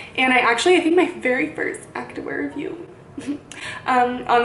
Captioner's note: giggles